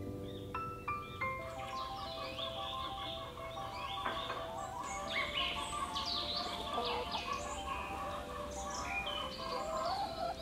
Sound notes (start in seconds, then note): 1.4 chickens cluck; 6.1 whistles curiously